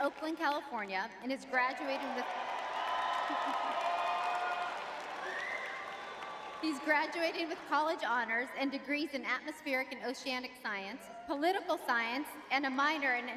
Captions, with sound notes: Oakland, California, and is graduating with- [audience cheering] [laughs] He's graduating with college honors and degrees in atmospheric and oceanic science, political science, and a minor in